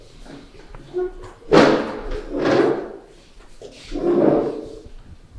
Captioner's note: chairs scraping